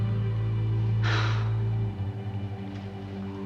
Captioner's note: sigh